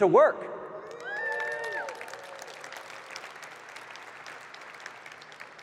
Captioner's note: audience cheering and clapping